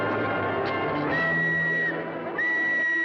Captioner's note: blows whistle